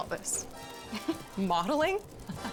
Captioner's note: chuckles